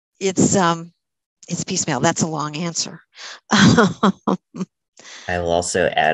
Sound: laughs

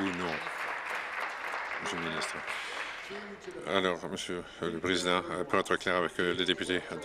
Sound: applause

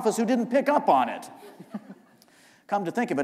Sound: chuckle

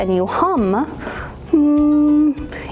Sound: hums

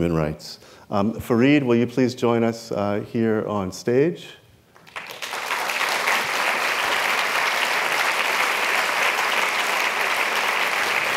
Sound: applause

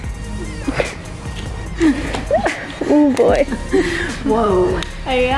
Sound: laughs

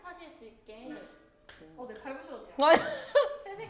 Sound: tap, tap

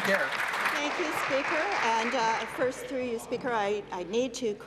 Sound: applause

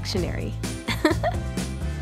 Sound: chuckle

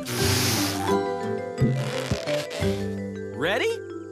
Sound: blowing

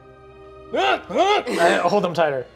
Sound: grunting fearfully

